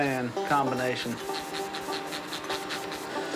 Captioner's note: spray hissing